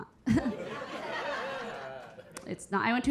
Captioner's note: Keira chuckling; audience laughing